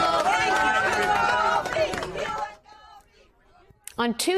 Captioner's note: applause